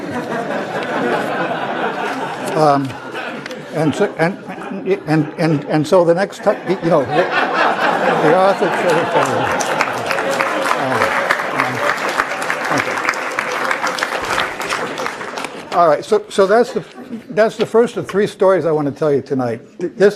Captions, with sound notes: correcting my manuscript. >> [LAUGH] >> And so the next- >> [LAUGH] >> The author- >> [APPLAUSE] >> All right, so that's the first of three stories I want to tell you tonight.